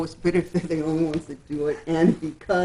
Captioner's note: laughs